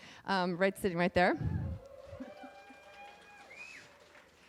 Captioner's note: cheering